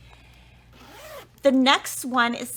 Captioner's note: zipper vibrates